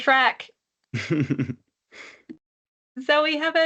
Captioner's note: chuckles